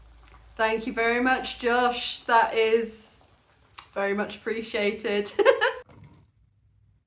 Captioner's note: giggling